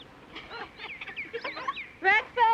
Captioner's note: jack barking, laughter